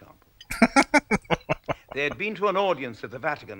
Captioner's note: laughing